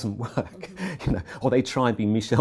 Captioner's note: laugh